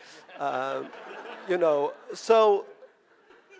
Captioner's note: audience laughing